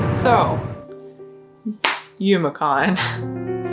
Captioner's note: claps